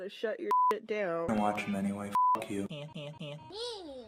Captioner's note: beep